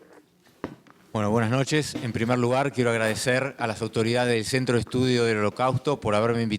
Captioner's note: speaking in foreign language